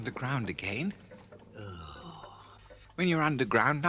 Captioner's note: rat groans